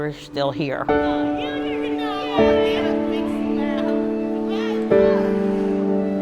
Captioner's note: laughter and joyous conversation